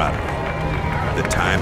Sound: crowd cheering

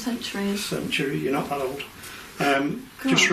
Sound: none

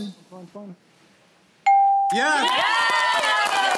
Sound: cheering

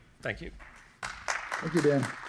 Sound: applause

